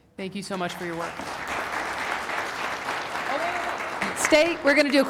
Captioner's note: applause